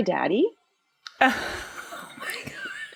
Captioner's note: laughs